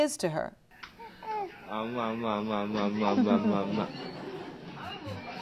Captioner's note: cooing